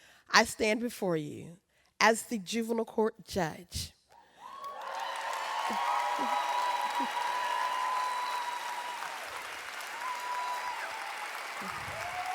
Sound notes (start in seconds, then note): 4.4 audience cheers